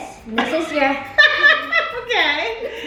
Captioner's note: both laughs